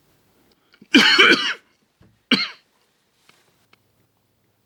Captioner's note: coughing